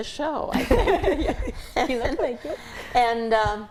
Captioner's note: all laugh